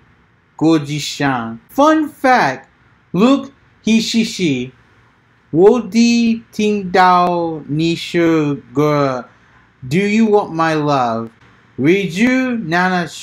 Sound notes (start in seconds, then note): 1.6 fun fact said in cantonese too; 9.7 says Idol On Stage in Japanese and Cantonese